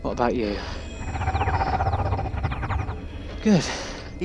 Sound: The Tardis makes a relieved noise

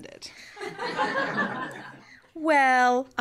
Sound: laughter

